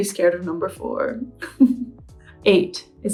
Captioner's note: laughs